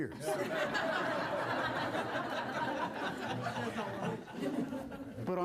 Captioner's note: laughter